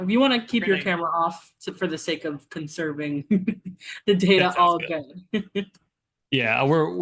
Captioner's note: laughs